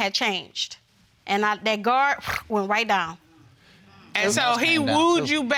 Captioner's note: scoffs